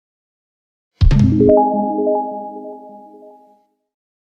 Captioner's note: chiming